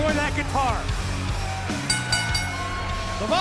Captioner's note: bell ringing